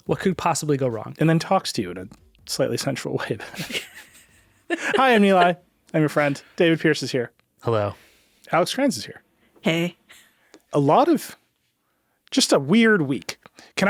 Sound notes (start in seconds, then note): 3.3 group chuckling; 10.1 chuckles